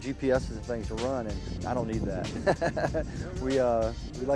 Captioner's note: laughs